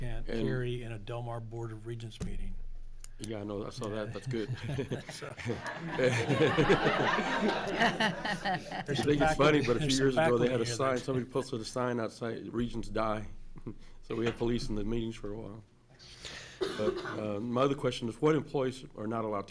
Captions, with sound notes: you can't carry in a Del Mar Board of Regents meeting. - Yeah no, I saw that, that's good. (laughing) You think it's funny but a few years ago they had a sign, somebody posted a sign outside, Regents Die. So we had police in the meetings for a while. My other question was, what employees